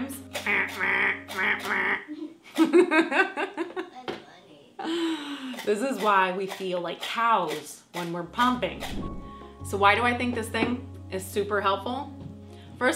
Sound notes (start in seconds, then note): 0.4 imitates game show buzzer; 0.5 laughs; 8.7 air whooshing